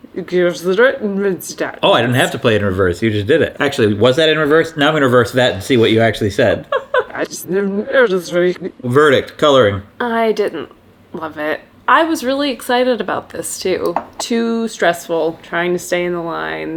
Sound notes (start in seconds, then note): 6.5 laughs